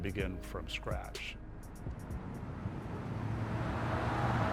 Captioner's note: wind noise